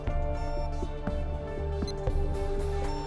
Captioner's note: computer beeping